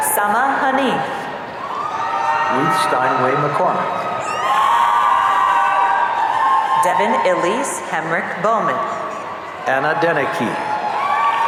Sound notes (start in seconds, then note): 4.5 audience cheering; 11.2 audience cheering